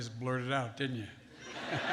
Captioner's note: laughter